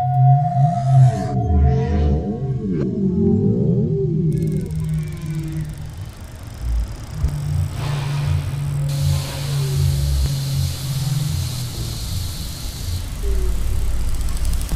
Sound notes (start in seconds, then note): 0.1 non-Diegetic Audio: Animals; 4.1 non-Diegetic Audio: Whales & Dolphins; 8.4 diegetic & Non-Diegetic Audio: Waterfalls, Dripping Water, Ocean, Animals